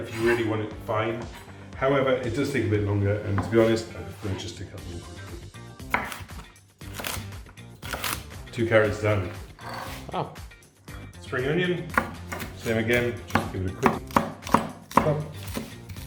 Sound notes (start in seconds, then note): 5.8 knife chopping; 5.8 upbeat music; 11.8 knife chopping